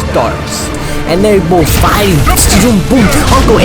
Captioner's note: electric noise